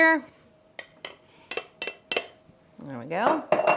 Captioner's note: bowl tapping